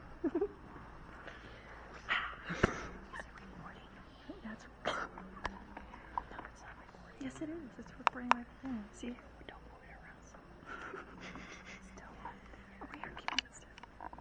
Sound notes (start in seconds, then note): 0.2 teenagers giggling; 8.0 camera click